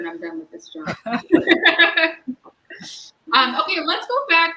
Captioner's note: all laugh